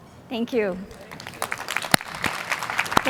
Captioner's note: applause